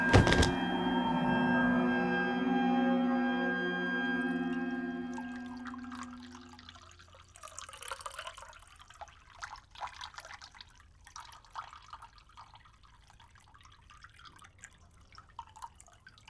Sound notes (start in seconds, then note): 4.7 coffee pouring